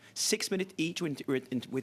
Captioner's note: speaking French